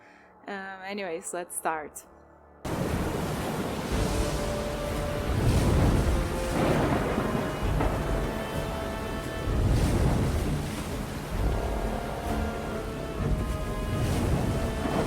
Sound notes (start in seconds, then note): 2.6 storm; 2.8 tense music